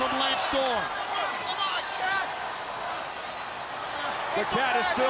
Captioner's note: crowd chatter